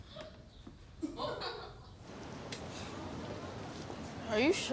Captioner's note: Benji laughing